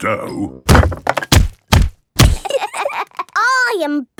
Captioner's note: banging